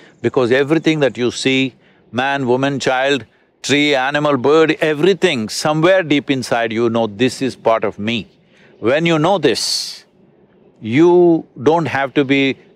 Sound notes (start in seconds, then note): none